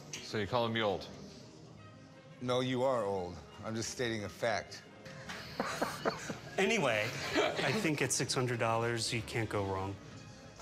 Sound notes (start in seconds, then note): 5.2 laughs